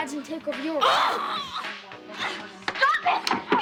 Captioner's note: screams in frustration